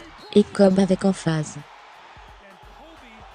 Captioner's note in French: acclamations de la foule